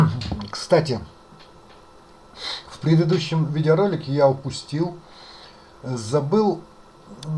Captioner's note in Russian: фыркает